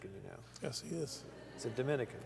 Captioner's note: laughter